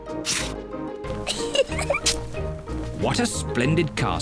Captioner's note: giggles